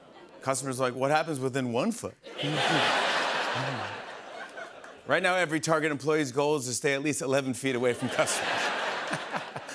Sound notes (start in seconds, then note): 2.3 laughter